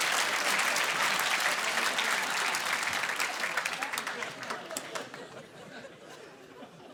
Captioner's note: applause